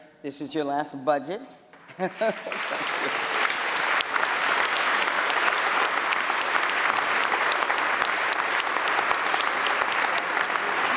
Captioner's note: applause